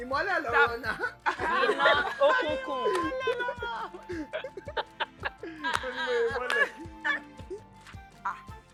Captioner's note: laughs